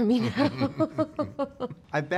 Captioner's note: laughs